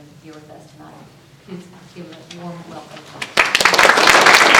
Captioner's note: applause